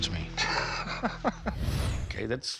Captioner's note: laughs